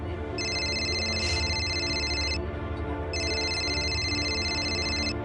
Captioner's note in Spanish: Suena el celular